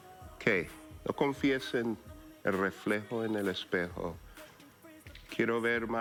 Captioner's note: speaks in spanish